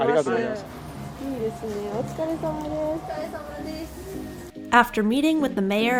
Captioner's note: speaking Japanese